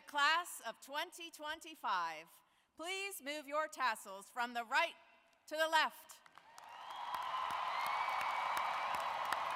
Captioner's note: cheering and applause